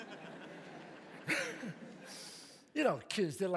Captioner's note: audience laughs; bursts into laughter